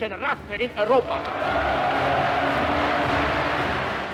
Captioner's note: cheers and applause